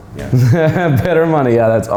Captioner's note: laughing